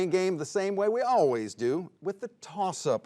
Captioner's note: none